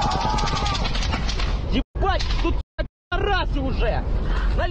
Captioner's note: screaming